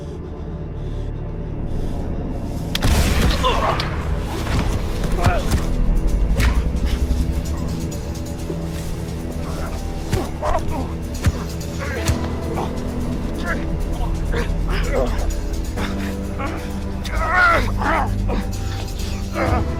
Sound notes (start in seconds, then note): 2.8 gun fires; 4.3 both grunting